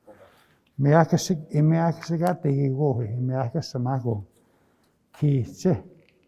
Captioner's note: speaking in Nêhiyawêwin